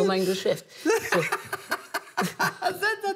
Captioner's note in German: Beide lachen